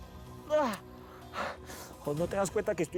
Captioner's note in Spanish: gemidos